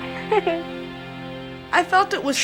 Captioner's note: laughs